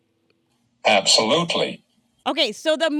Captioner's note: voiceover